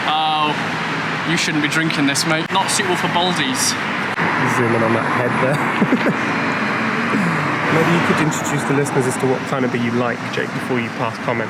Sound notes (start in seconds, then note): 5.4 laughs